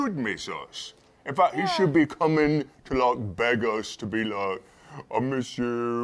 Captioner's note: none